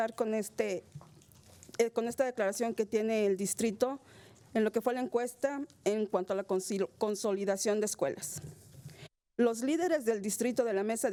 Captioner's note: speaking spanish